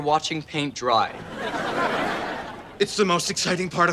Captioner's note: audience laughter